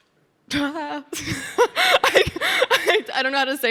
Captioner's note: Sydney laughing